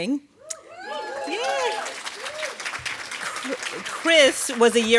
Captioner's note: audience cheering